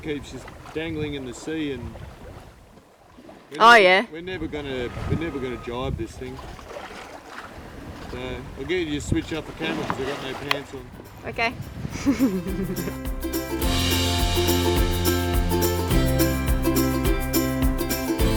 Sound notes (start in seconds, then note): 11.9 laughing; 12.1 upbeat music